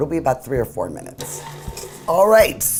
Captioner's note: whirring